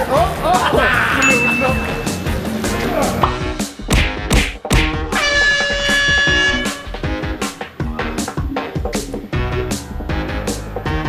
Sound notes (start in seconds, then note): 0.4 laughing; 5.1 air horn blowing; 7.0 energetic music